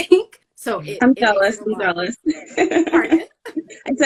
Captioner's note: laughing